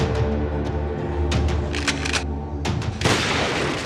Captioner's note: chilling music; rifle clicks; gun fires